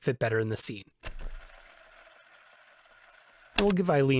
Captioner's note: fast forward noises